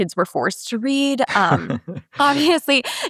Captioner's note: laughs